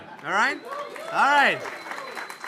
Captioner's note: applause